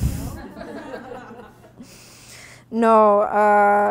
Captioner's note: audience laughing